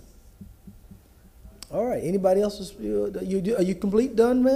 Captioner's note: ~audio distortion~